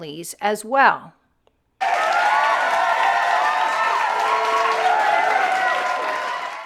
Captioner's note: audience cheering